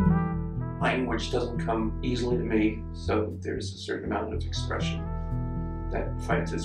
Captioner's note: voiceover